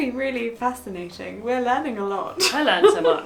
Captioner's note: laughs